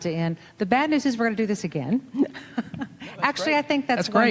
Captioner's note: laughing